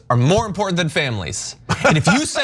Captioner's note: laugh